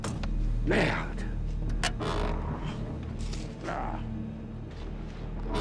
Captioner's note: speaking foreign language